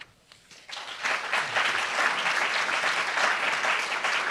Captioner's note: applauds